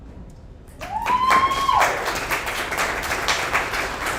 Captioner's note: audience applauds